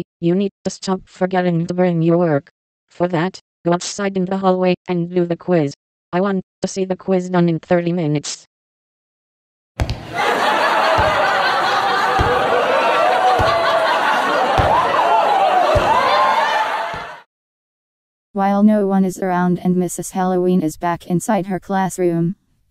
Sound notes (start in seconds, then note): 10.0 students laughing